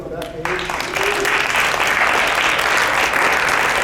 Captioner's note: clapping